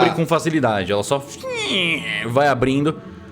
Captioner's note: creaks